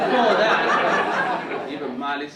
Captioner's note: audience laughing